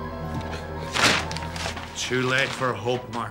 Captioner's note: poster tearing